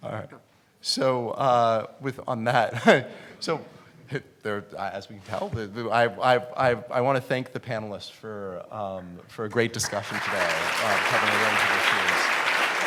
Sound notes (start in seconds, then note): 3.6 stuttering; 12.7 applause